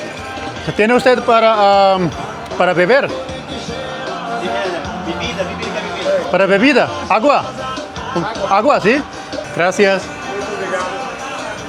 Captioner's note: speaking Spanish